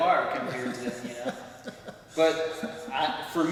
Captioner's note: laughs